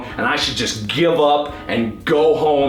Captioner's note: none